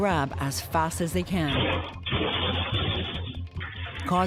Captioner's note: glass shattering